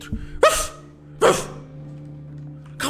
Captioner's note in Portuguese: woof woof